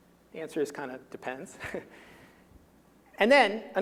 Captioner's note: chuckling